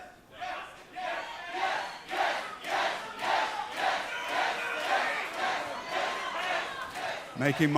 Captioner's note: fans chanting